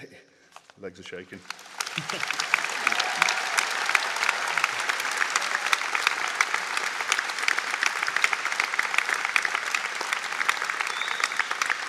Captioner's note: audience Applause